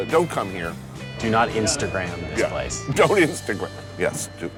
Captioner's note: laughing